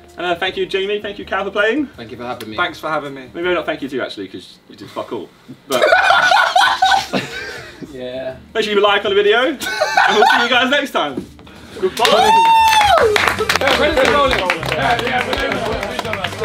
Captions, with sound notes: And I thank you, Jamie. Thank you Kal for playing. - Thank you for having me. - Thanks for having me. - We don't have to thank you to actually, 'cause you just off but... (all laughing) - Yeah. - Make sure you like all the video and we'll see guys next time. Good bye! (all cheering) (upbeat music)